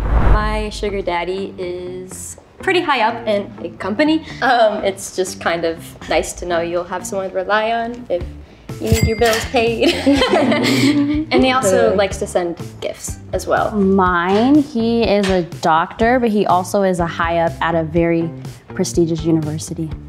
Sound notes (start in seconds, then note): 9.8 laughs